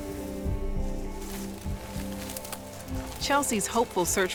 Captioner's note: leaves and branches rustling